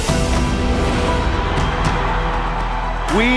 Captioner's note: crowd cheering